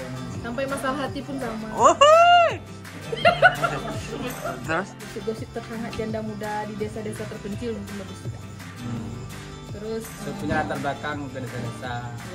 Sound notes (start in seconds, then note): 1.8 shouting; 3.0 laughing